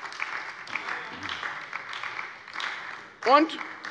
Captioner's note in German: Beifall bei der SPD